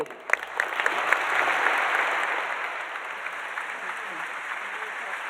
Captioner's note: audience applauding